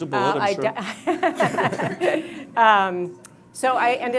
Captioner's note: all laugh